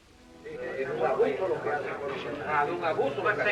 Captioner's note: spanish conversation